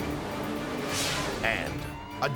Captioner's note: air whooshes